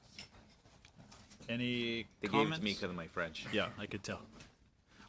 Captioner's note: speaking French